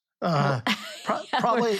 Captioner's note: laughs